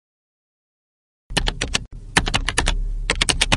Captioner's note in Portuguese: Maquina de Escrever